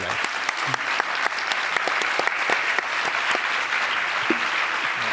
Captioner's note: audience applauding